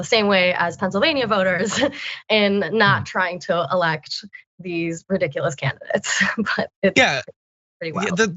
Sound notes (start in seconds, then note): 1.4 laugh